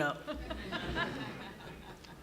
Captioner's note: laughter